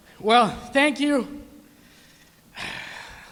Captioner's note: none